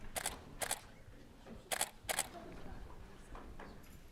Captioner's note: camera clicks